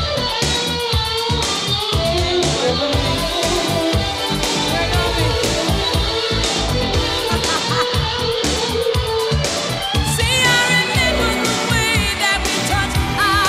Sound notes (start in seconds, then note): 7.1 laughing